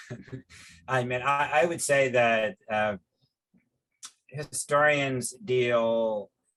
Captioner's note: laughs